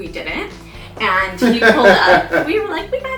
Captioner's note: laughs